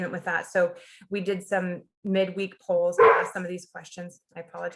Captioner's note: dog barks